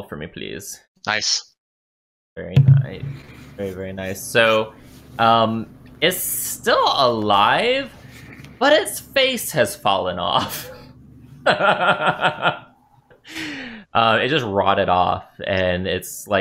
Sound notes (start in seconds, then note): 7.6 laughter